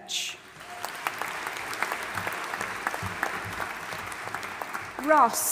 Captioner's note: audience applauding and cheering